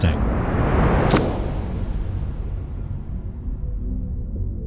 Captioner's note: booming sound; ominous music continues